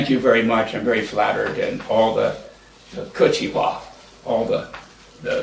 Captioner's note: japanese